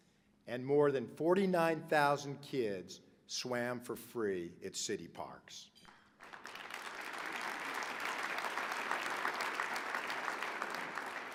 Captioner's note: applause